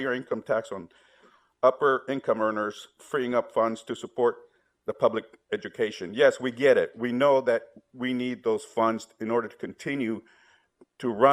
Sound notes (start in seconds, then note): none